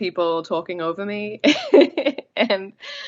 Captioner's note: laughs